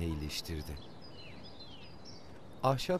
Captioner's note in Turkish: Kuş cıvıltısı sesi